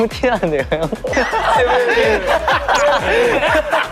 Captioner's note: Baekgu bursts into laughter